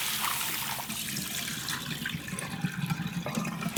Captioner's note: water draining out